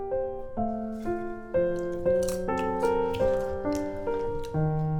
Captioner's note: crunching